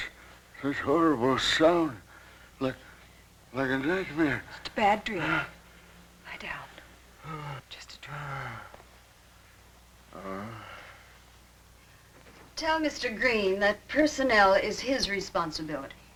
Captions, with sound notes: This horrible sound. Like a nightmare. Just a bad dream. Lie down. Just a dream. (groaning) Tell Mr. Green that personnel is his responsibility.